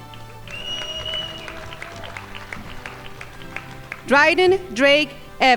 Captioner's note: crowd applauding